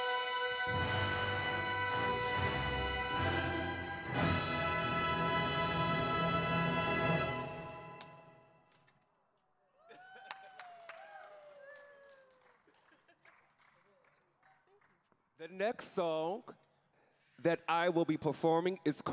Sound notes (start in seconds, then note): 9.7 crowd cheering